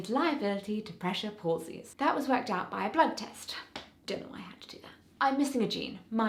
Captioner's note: slap